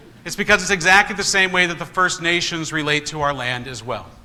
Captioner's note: congregation laughs